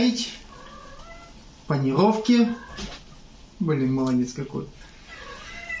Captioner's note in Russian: кот мурчит